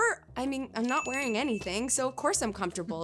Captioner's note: bell ringing